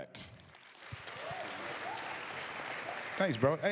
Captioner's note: applause